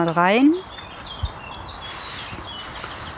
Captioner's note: birdsong